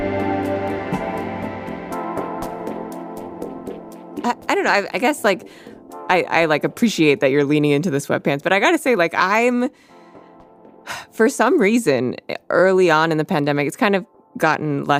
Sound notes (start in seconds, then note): 10.4 sighs